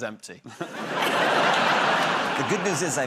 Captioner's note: laughter